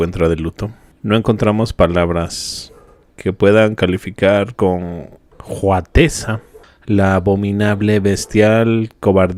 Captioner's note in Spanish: resoplido